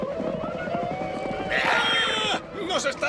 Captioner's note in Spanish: grita